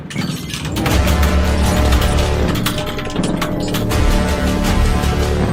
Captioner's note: keyboard clicking